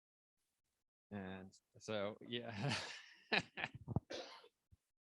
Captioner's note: laughs